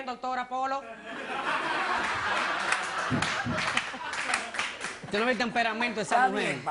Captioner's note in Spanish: Risas